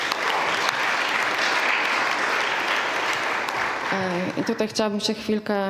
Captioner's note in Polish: oklaski